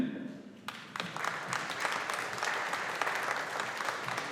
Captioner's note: audience applauding